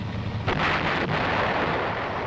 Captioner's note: missile exploding